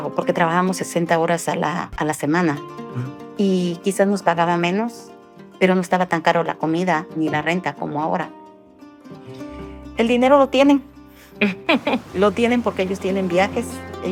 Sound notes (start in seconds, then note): 11.4 laughing